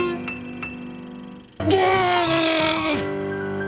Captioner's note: grumbles